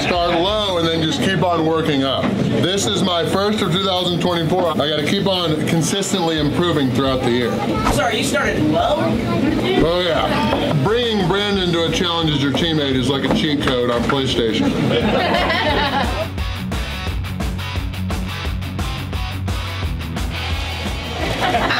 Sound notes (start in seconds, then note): 7.6 crowd; 14.5 laughter